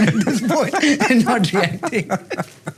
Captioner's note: both laugh